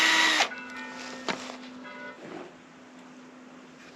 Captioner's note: church bells